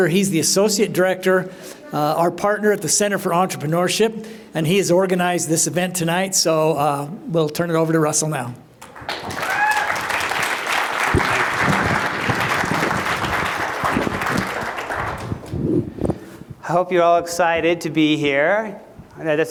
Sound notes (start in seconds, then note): 8.8 applause